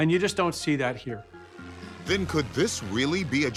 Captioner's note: airplane engine roaring